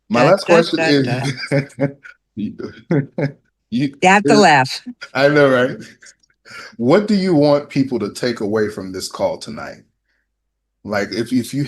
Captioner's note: laughter